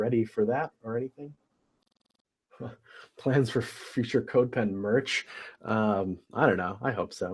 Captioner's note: laugh